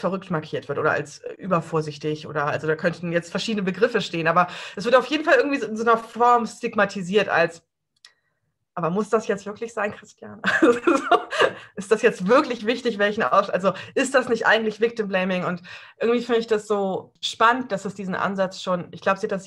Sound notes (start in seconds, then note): 10.4 laughs